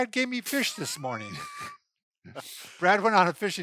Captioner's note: chuckles